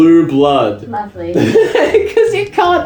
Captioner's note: laughs